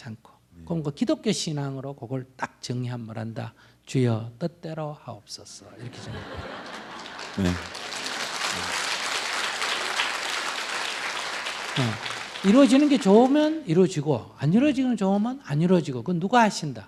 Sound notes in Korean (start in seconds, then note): 5.7 청중 웃음; 10.0 청중 웃음/박수